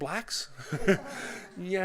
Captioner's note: laughter